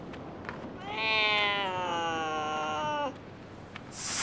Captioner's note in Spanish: gato maullando